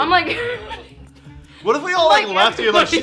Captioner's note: laughing